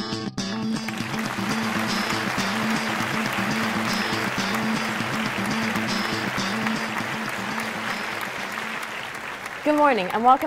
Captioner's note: applause